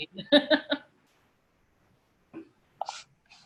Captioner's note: laughing